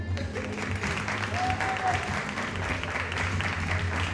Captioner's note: audience applauding